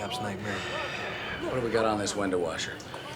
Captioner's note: sighs